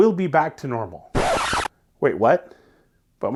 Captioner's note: tape rewinding